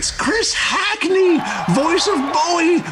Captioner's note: audience cheering